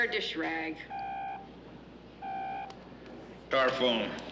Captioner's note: Telefon çalıyor